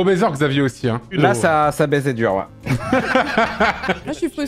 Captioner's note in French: rires